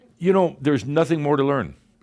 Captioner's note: none